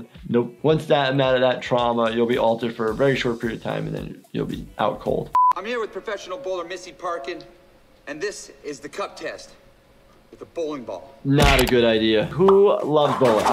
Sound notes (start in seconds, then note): none